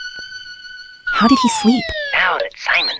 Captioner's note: whispering